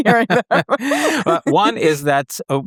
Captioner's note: both laughing